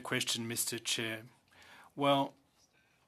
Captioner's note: speaking French